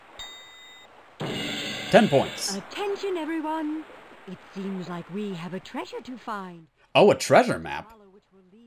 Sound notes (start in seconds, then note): 0.2 dong!; 1.2 thud